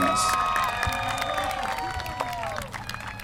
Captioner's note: applause